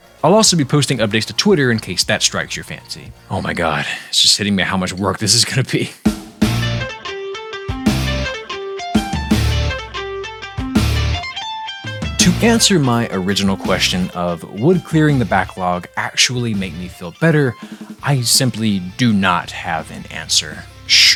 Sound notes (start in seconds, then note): 6.7 laughing